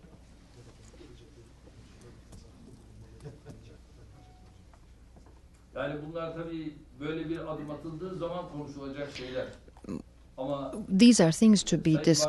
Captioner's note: through translator